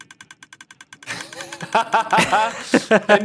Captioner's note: laughs